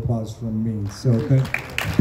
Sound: applause

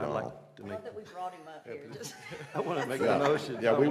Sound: laughter

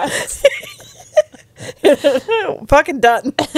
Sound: panel laughing

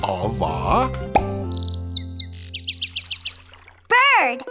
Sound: bird whistling

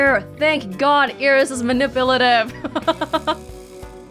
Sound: chuckles

